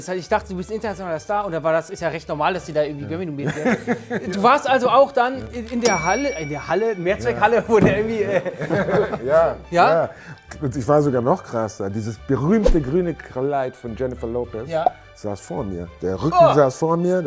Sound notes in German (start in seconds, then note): 8.2 Lachen